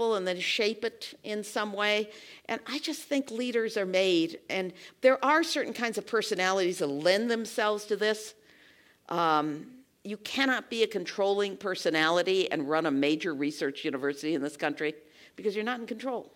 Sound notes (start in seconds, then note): none